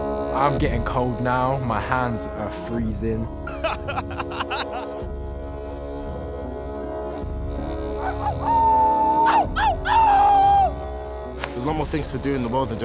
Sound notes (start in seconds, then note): 3.4 laughter; 8.0 boys howling